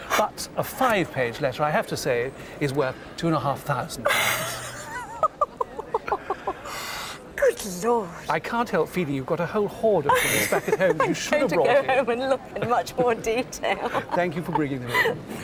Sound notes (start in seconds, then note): 4.1 she laughs